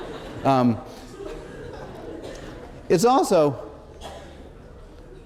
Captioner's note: laughter